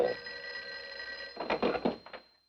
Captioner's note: telephone ringing